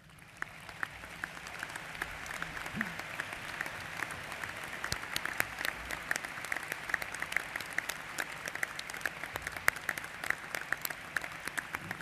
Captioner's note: applause